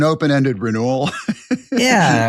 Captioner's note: laugh